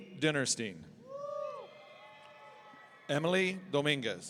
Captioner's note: audience cheering